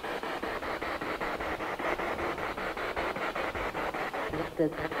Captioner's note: noise of the spiritbox in the background